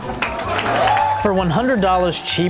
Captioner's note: audience applauding